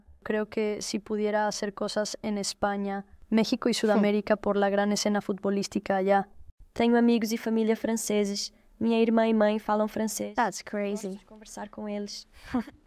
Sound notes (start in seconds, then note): 0.2 Spanish